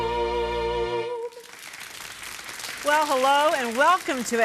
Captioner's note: audience clapping